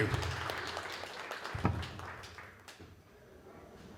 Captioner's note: applause